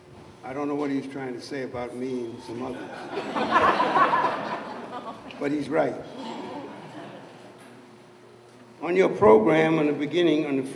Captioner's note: laughs